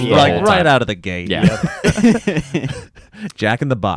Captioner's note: laughs